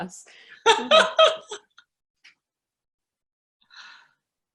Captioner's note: laughs